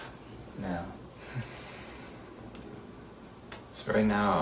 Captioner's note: exhales